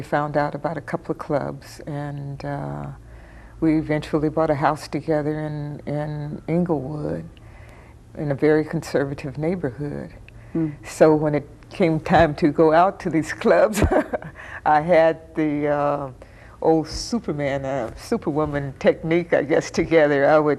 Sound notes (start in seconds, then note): 14.0 chuckling